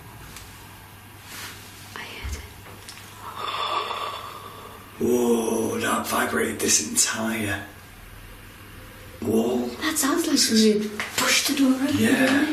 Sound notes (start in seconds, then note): 1.2 rustling; 3.2 inhales